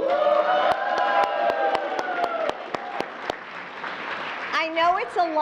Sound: applause

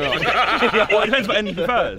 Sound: laughing

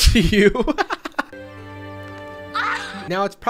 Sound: laughs

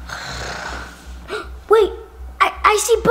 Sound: sighing

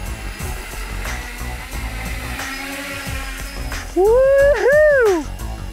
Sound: electric motor whirring

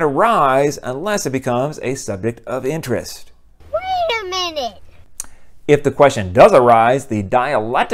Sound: kid voice: wait a minute

